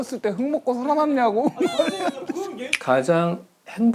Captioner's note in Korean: 꺼이꺼이